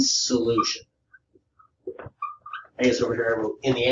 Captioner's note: board marker squeaks